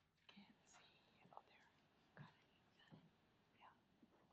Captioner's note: whispering